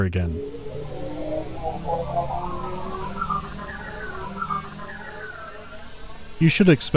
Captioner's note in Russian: звук лечения повторяется снова и снова